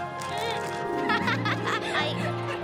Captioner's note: Lizbeth laughs